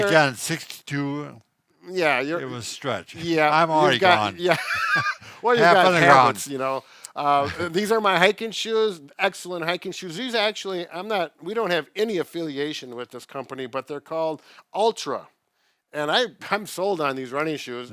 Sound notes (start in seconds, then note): 3.8 laughing